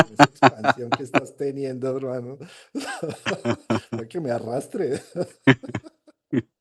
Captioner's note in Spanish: risas; risas